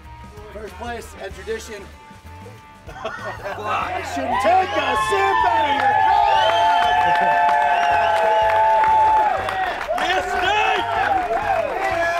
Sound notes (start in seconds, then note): 7.4 applause